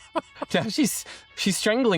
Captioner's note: laughs